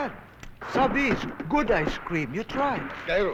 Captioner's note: non-english